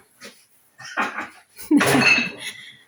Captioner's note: laughs